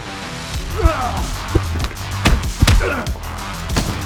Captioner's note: upbeat music; fighters moaning; upbeat music